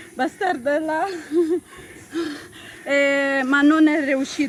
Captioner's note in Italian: Risate